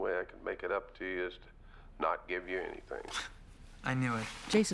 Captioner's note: scoffs